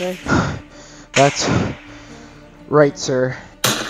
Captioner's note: panting